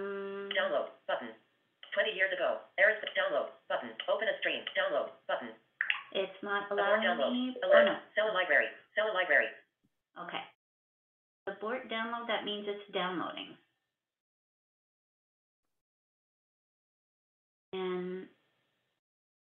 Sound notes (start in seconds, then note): 7.4 VoiceOver voice